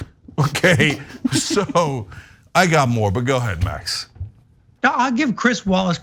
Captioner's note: laugh